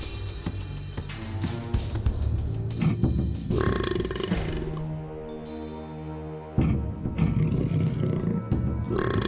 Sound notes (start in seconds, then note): 3.5 burps